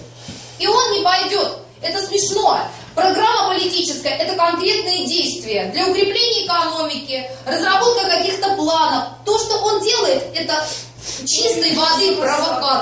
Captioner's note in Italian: grida